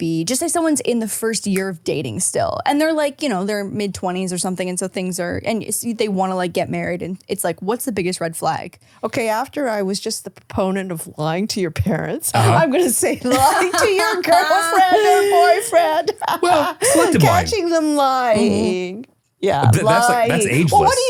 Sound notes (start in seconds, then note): 16.3 laughing